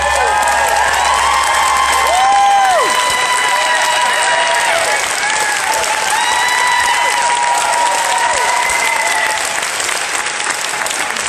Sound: applause

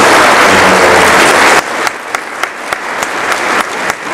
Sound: audience applauds

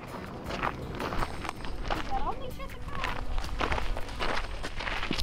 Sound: steps crunching on gravel

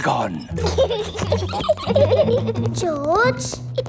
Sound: both giggling

